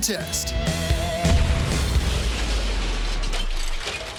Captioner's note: explosion crashes; metal clangs